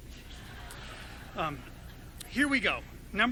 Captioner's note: audience laughing